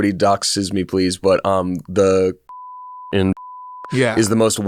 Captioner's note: beep